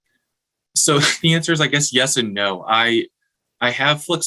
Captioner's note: chuckling